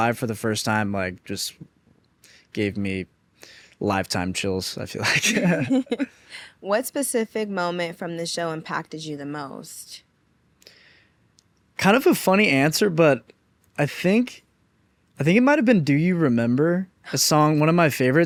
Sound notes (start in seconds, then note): 5.0 both laugh